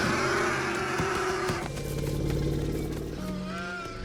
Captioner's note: komodos hiss angrily